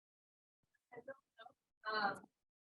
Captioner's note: pause